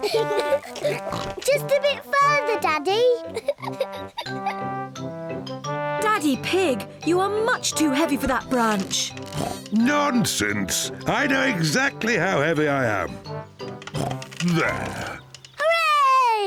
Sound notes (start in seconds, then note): 0.5 snorts; 9.2 snorts; 13.9 snorts